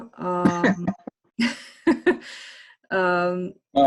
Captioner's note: laughter